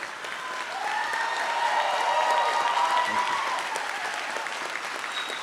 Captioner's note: audience cheers and applauds